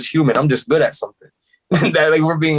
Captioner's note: laughs